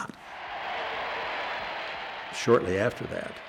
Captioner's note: applause